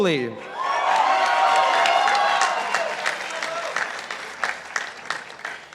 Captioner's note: participants applauding